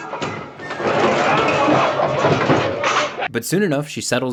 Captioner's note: dishes clattering